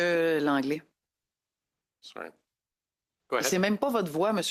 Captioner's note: speaking French